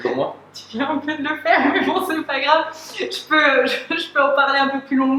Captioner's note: laughs